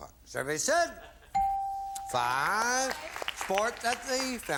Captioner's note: applause